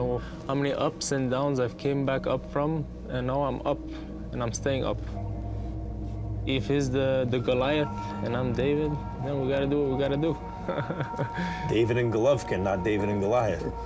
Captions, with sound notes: I know how many ups and downs I've came back up from. And now I'm up and I'm staying up. If he's the Goliath and I'm David, then we got to do what we got to do. ( laughs ) David and Golovkin, not David and Goliath.